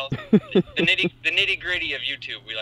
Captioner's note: laughs